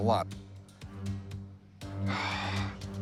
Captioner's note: sighs